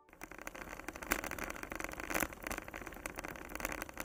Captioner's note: bike wheel clicking